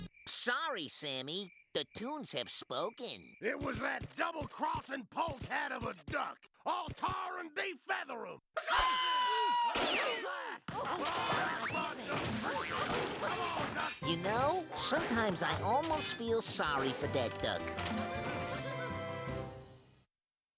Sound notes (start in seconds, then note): 8.5 screaming